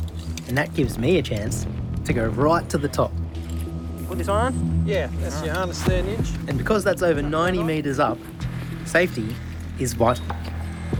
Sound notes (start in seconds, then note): none